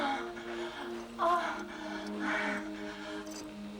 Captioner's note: Kate moans